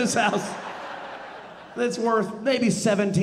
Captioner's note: audience laughing